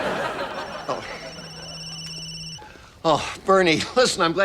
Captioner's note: phone rings